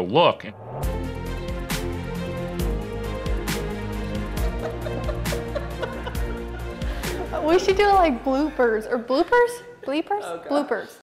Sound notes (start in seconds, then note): 0.6 upbeat pop music; 4.4 laughing